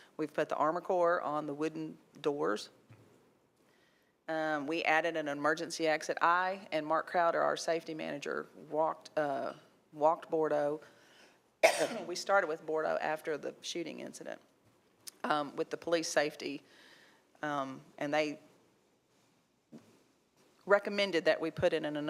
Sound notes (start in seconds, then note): 11.6 coughs